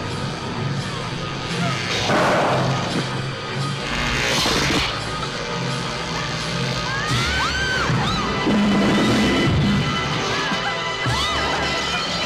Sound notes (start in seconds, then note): 4.1 zapping; 6.9 girls screaming; 9.1 suspenseful music